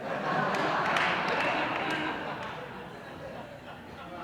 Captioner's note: audience laughing